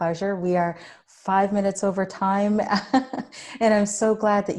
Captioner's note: chuckles